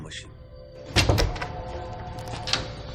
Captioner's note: door opening